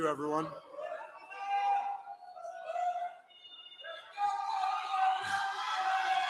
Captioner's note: applause